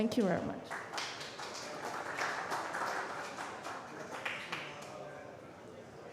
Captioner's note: applause